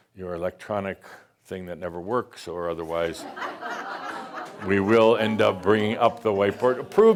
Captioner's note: laughter